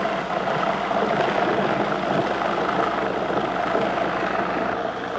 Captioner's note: mixer whirring